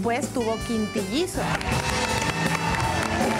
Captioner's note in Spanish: Aplausos